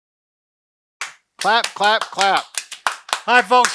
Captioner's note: upbeat tone; both clapping